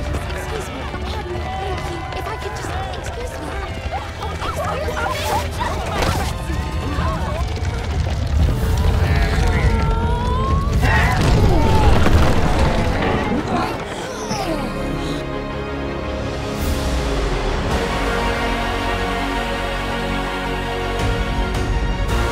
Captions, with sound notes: - Excuse me. Thank you, if I could just, excuse me. (carriage crashes) (adventurous music)